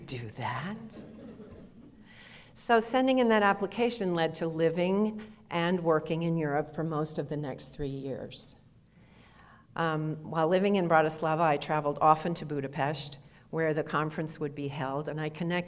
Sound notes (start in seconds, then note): 1.0 audience laughter